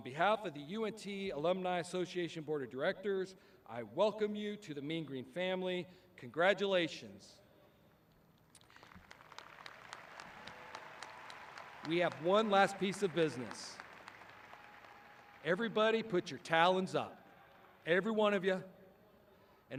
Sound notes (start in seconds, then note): 8.5 audience clapping